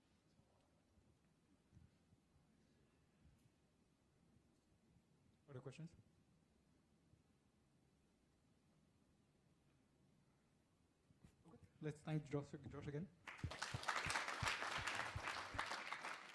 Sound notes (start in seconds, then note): 13.2 applause